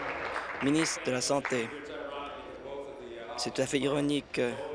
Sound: applause

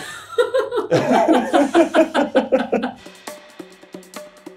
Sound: laughs; upbeat music

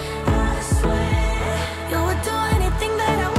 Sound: none

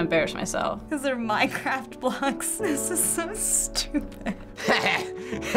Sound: laughs; chuckles

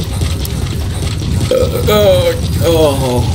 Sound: burp

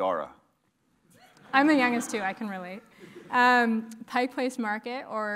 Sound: laugh

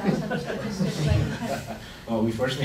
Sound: laughing

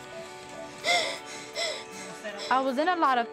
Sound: panting

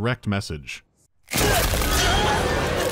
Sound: skrunk

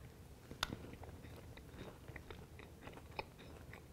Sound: chewing

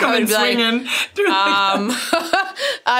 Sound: laughs

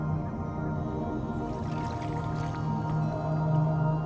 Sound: water gently splashes twice

